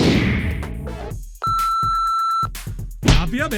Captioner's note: alcohol Meter beeps; beats with laathi